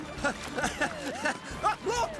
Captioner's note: nervous Chuckle